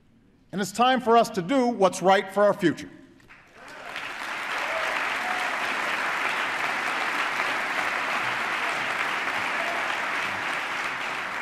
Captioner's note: applause